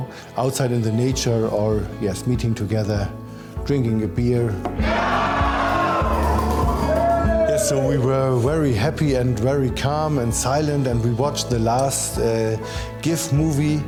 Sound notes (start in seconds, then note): 4.8 cheers